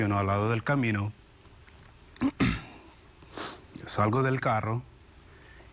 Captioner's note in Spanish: Carraspea